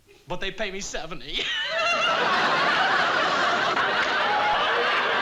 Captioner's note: laughing